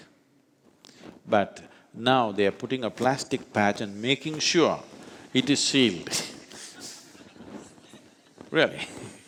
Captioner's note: laughs